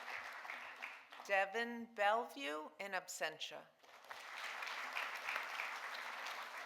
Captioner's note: audience applauding